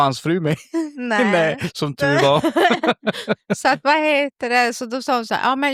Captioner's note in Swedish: skratt